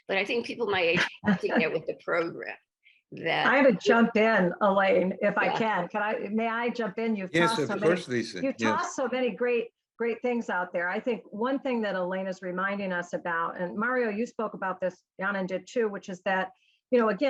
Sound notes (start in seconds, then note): 0.7 laughs